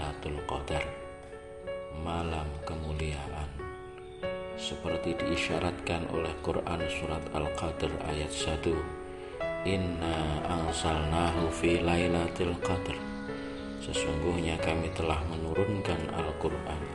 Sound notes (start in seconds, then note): 8.5 reading a quran verse